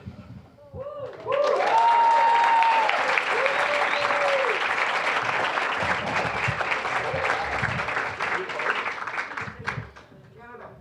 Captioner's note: applause, cheering